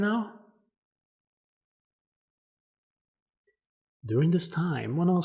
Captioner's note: intentional pause